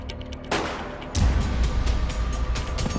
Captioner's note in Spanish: Disparo